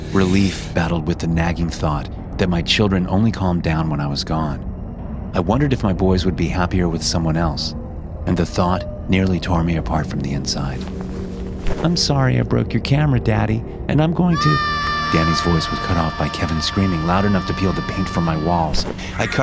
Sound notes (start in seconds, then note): 14.3 Kevin screaming